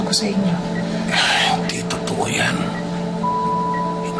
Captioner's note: exhales